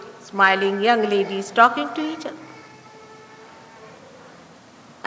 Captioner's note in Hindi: युवा महिलाएं आपस में बात कर रही हैं